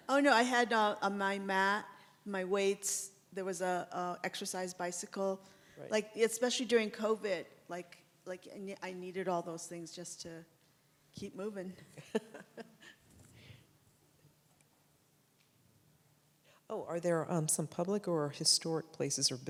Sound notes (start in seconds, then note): 11.9 chuckles